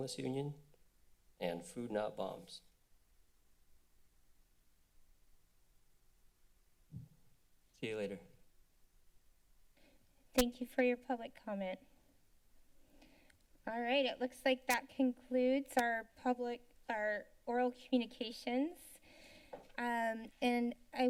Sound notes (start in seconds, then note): 2.7 silence; 12.1 silence